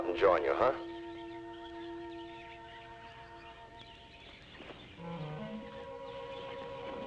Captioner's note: birds chirping; gentle music